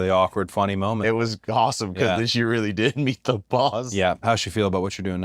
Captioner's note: laugh